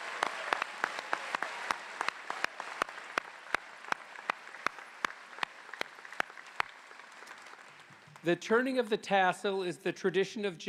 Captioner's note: applause